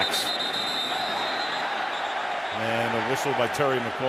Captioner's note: whistle